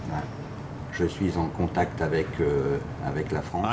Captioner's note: speaking French